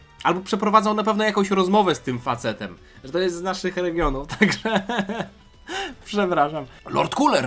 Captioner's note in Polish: śmiech